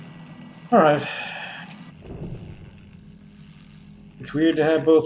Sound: sighing

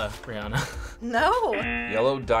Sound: audio buzzes

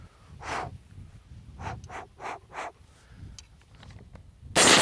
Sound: quickly exhales

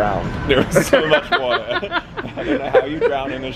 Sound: laughs

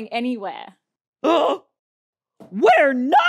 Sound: Mendel gasping

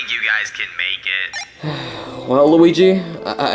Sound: device beeping

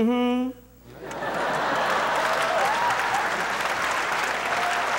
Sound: audience applauding

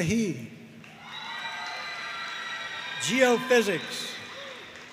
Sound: audience cheering and applauding

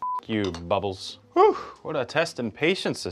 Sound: beeps

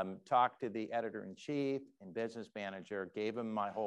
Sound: none

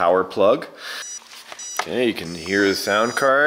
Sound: beeping

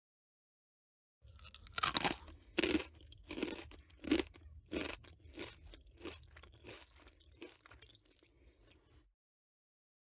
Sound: sound of eating

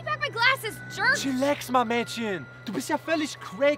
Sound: foreign language

